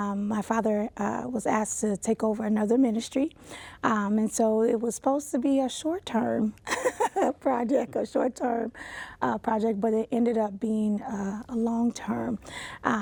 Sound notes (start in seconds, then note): 6.7 laughs